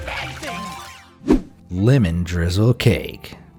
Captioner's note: air whooshing